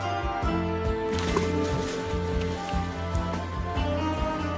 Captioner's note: fake blood splashing